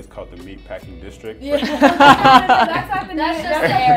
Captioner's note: laughing